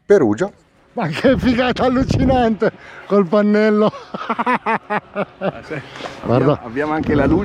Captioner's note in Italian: risate